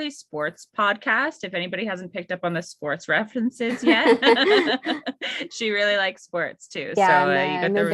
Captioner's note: laugh